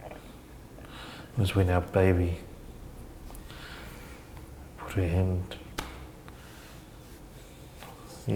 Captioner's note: slaps leg